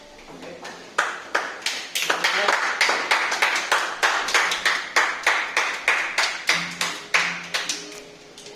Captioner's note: audience clapping